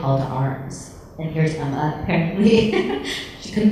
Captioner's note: laughs